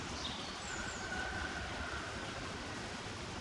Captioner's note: bird singing